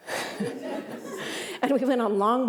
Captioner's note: laughter